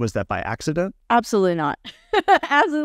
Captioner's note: laughing